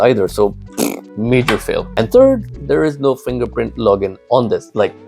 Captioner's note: blows raspberry